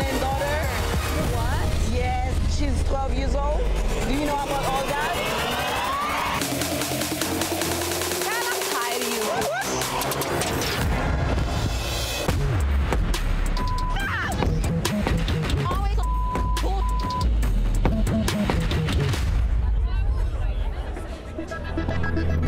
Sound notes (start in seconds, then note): 7.3 tense drumbeat; 12.5 anxious drumbeat; 12.5 beep; 18.1 anxious electronic music